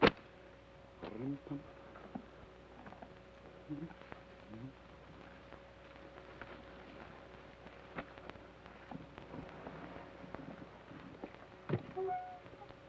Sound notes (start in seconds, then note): 1.1 hums melodically